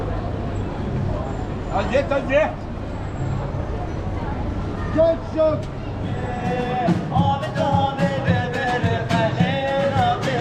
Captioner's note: sound of the street